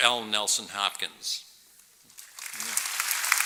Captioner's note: applause